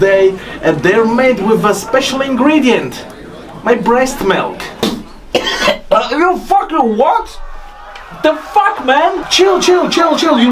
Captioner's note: coughing